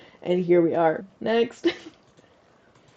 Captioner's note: laugh